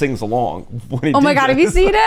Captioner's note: laughs